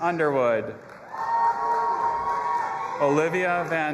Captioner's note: audience applauding and cheering